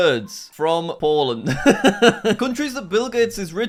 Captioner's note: laughing